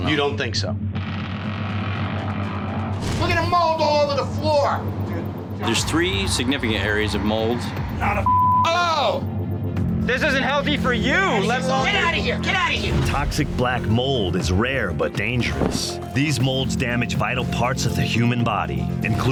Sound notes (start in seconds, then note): 1.1 creaking